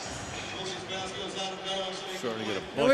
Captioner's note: pa announcement